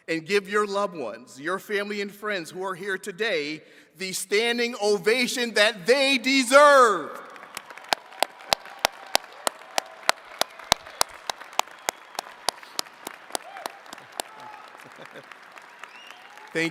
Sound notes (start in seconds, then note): 7.1 attendees clapping and cheering; 14.6 chuckles